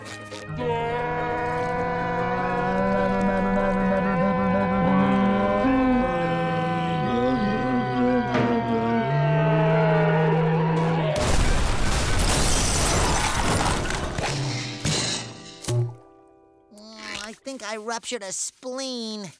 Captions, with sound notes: [screaming in slow motion] [screaming in slow motion] [crashing] [thudding] Ow, I think I ruptured a spleen.